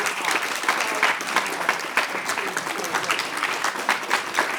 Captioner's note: audience clapping